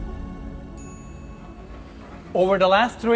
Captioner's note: dramatic music continues; chime ringing